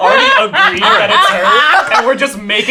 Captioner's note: laughing